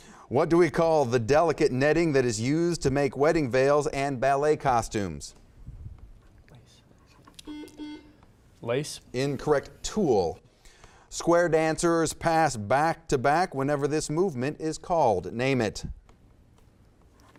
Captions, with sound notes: What do we call the delicate netting that is used to make wedding veils and ballet costumes? (buzzer beeps) - Lace. - Incorrect, tulle. Square dancers pass back to back whenever this movement is called, name it.